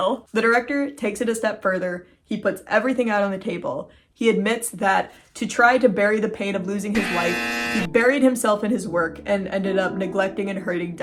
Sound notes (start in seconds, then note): 6.9 buzzer sound